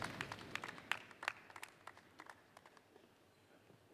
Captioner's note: applause